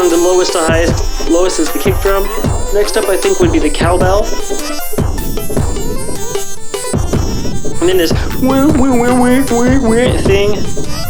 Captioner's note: mouth synth